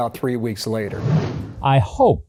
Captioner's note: air swooshes